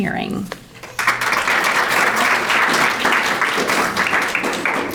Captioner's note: audience applauding